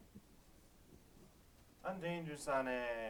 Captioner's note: non-english speech